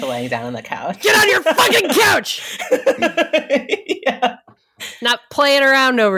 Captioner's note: laughing